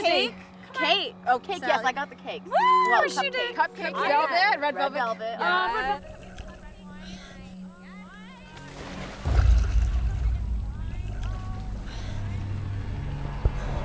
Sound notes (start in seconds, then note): 8.4 water splashing